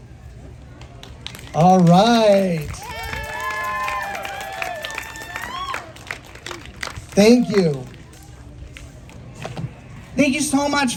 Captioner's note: applause